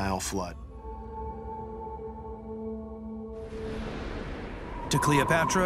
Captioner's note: gentle suspenseful music; air whooshes